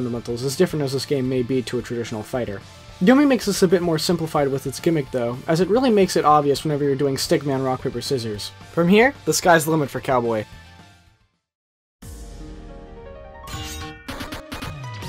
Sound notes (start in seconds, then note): 13.5 sword slice sound